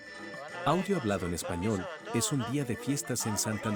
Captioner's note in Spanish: Audio hablado en español